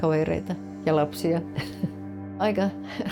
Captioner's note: laughs